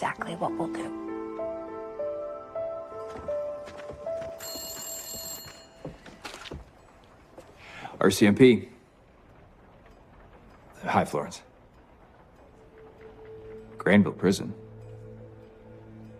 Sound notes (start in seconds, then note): 4.2 phone ringing